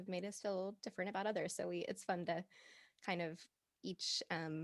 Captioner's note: none